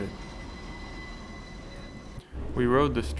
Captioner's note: streetcar whines to a stop